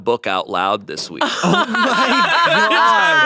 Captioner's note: everyone laughs